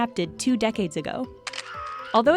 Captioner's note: camera click